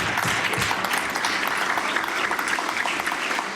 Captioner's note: some Applause